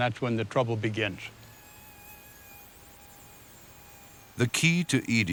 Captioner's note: mosquito buzzing